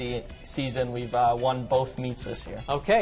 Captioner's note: none